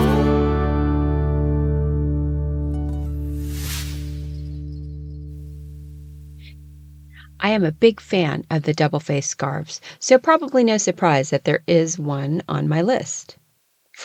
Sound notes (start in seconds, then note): 3.0 sound effect